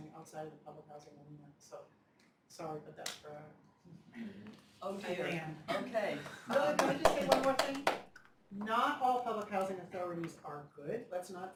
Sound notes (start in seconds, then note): 6.4 applause